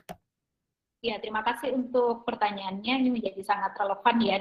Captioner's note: non-english speech